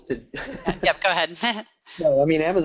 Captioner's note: laughs